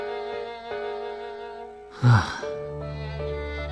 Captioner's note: sigh